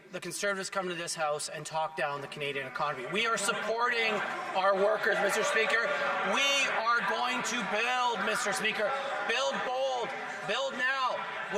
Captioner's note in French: voix de l'interprète